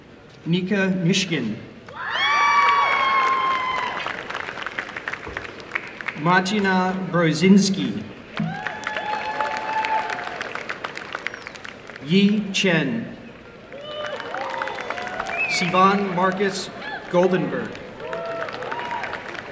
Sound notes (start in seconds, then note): 2.3 applause; 8.3 applause; 13.6 applause